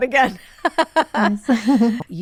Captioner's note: laughing